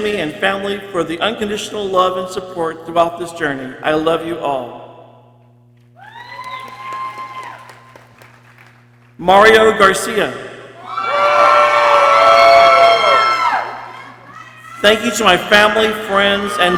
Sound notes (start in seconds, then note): 6.0 people cheering; 10.8 people cheering